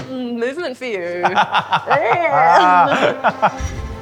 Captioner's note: laughing